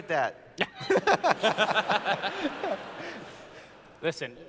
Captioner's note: laughter